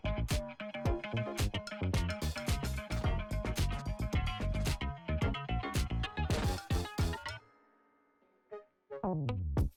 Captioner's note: turntable